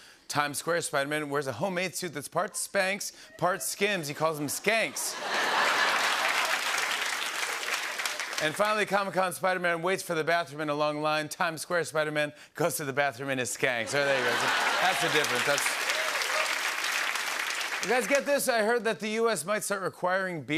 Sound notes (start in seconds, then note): 4.4 laughter and applause; 13.9 laughter